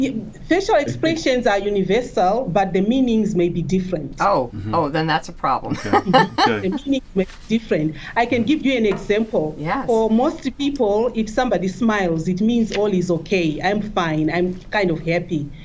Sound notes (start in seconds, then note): 5.6 laughs